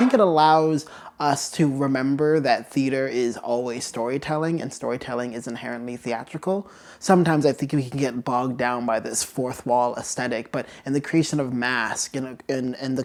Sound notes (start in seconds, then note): none